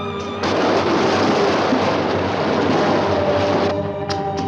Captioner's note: water gushing; suspenseful music